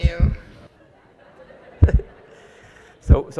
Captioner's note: audience laughs